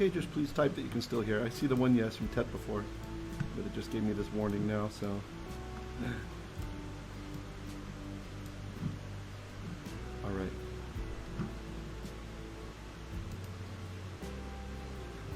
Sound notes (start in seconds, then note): 8.2 Hebrew